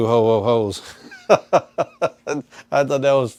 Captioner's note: laughing